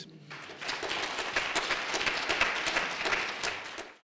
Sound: applause

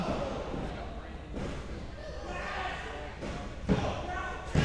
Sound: crowd yelling

